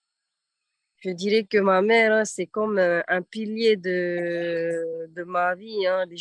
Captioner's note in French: En français